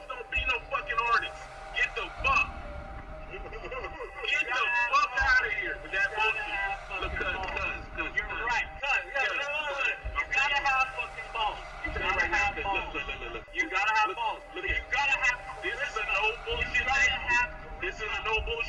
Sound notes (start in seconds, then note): 3.3 laughs; 3.5 voiceover; 8.4 voiceover; 13.0 voiceover